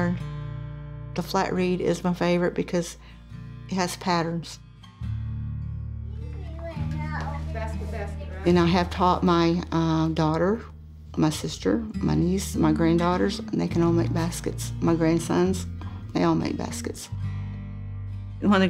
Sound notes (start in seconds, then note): 4.6 child and adults talking